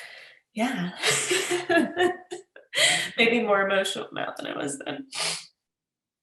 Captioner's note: laughs